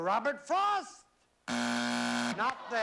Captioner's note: buzzer